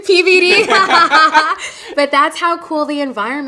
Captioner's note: both laughing